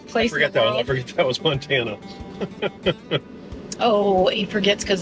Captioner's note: chuckling